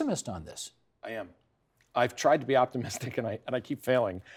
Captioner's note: laughter